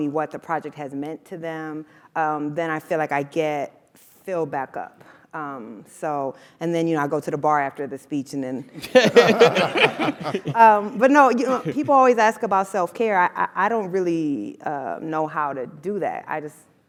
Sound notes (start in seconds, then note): 8.8 laugh